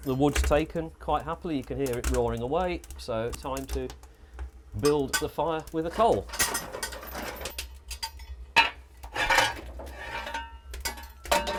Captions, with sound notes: Yeah, the wood's taken quite happily. You can hear it roaring away. [Crackling.] So time to build the fire with the coal.